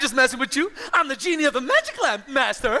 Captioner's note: none